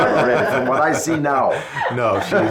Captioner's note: laughs